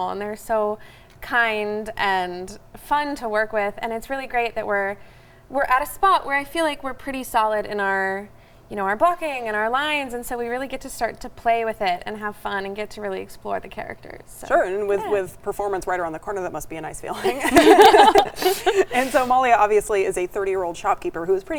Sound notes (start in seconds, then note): 17.1 all chuckling